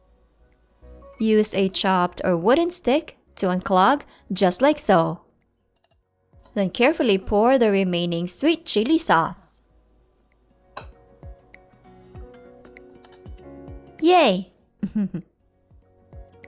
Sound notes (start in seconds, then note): 5.9 chopstick thuds; 14.8 soft chuckles